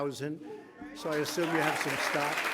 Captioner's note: applause